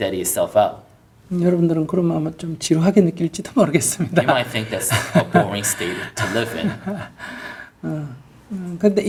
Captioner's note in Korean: 웃음